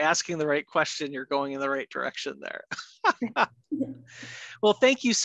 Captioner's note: laughs